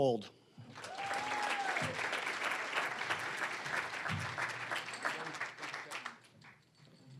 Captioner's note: applause